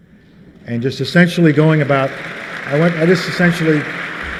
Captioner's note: applause